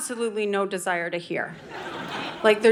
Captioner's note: audience laughing